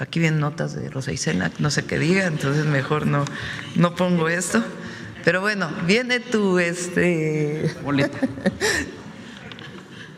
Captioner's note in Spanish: risas